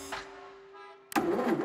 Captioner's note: ignition stalls